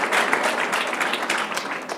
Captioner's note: applause